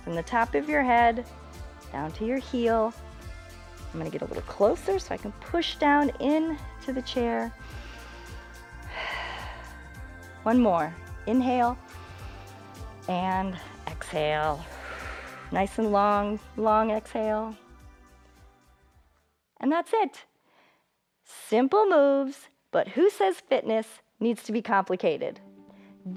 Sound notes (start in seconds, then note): 7.5 inhales and exhales; 12.1 inhales; 14.4 exhales